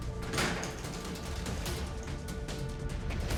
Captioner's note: door closes